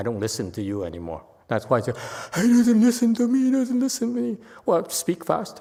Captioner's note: uses distressed tone